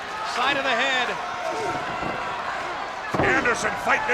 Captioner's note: blows thudding